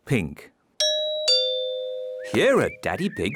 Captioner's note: doorbell rings